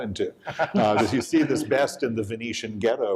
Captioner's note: chuckles